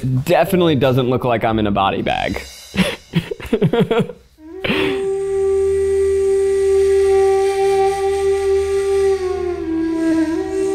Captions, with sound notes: Definitely doesn't look like I'm in a body bag. (laughing) (mystical music)